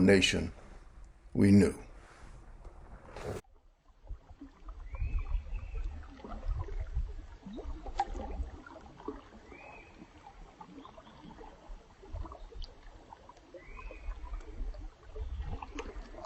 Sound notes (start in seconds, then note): 3.2 sound of water babbling